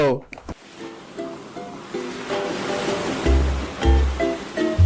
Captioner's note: waves splashing